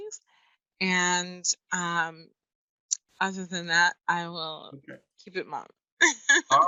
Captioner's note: laughs